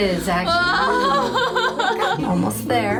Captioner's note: wails